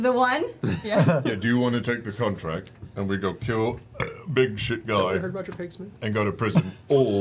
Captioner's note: burps